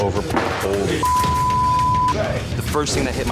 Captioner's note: beep